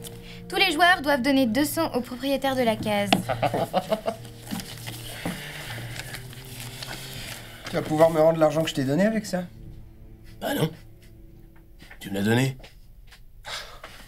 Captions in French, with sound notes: Tous les joueurs doivent donner deux cents au propriétaire de la case. (Rires) Tu vas pouvoir me rendre l'argent que je t'ai donné avec ça. Bah non ! Tu me l'as donné !